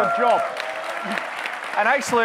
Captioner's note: audience clapping